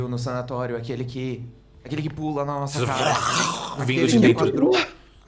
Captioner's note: roars